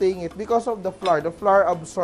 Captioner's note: sizzle; clang; sizzle